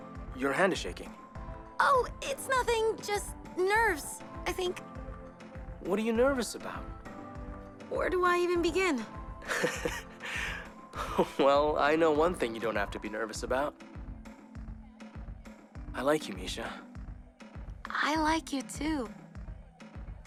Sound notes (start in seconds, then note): 9.4 Max laughs; 13.9 upbeat music